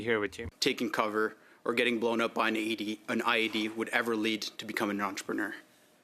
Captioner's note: speaking French